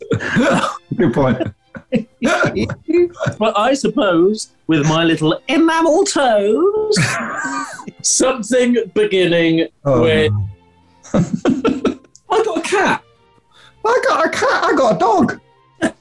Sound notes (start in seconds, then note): 0.0 laughter; 5.6 old crone's voice; 11.1 chuckling